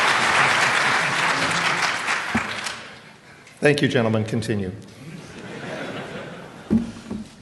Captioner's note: applause; laughter